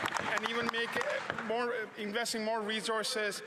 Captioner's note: some Applause